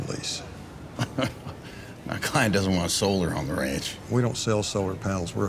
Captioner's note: laughs